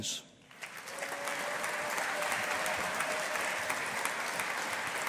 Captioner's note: audience applauding